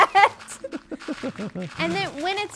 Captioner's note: laughter